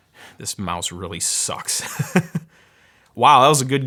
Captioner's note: laughs